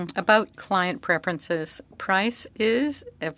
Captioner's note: speaking French